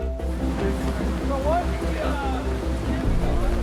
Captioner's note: flags flapping in the wind